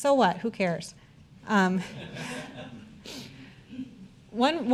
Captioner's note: audience laughter